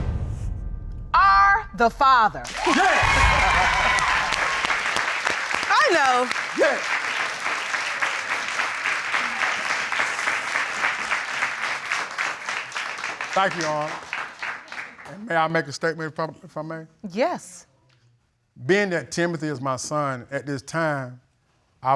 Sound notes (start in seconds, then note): 2.5 laughs; 3.2 audience cheering